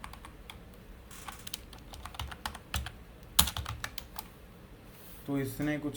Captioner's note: typing